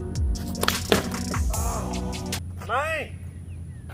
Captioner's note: loud thud